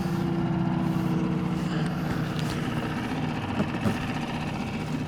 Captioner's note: boat whirring